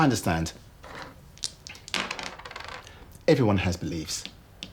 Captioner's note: dice clattering